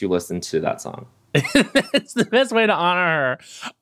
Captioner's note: laughs